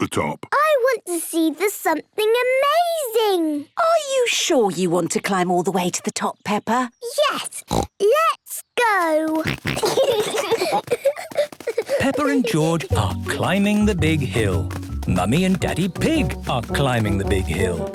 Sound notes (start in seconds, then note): 7.6 snorts; 9.4 snorting, giggling